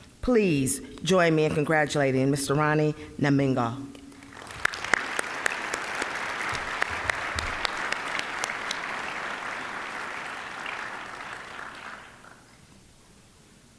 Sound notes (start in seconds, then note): 4.2 applause